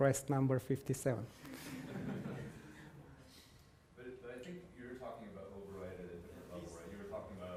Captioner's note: laugh